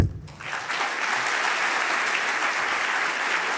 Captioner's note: applause